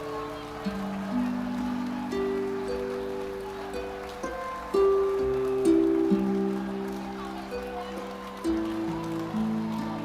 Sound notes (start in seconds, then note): 2.9 audience applauding; 2.9 gentle music